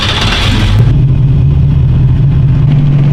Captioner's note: engine starting